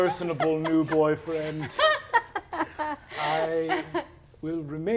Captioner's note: laughs